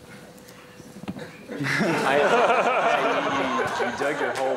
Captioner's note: laughter